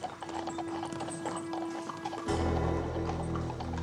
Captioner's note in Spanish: ruido de los cascos